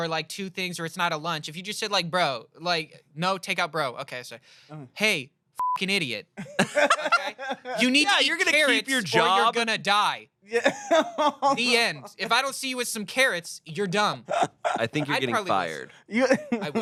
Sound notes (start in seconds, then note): 5.6 beep; 6.4 everyone laughs